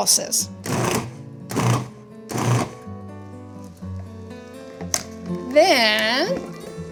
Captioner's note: gentle music continues; food processor whirring